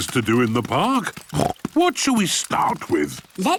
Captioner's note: snorts